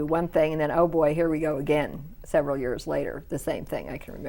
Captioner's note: none